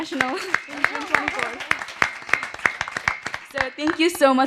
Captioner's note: applause